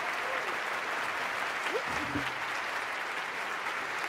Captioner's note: applause